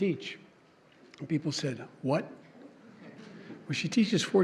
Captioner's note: laughter